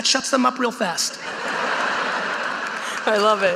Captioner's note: audience laughing